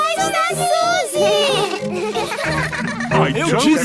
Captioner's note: bleating, laughing